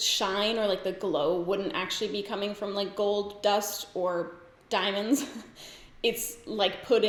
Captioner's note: giggles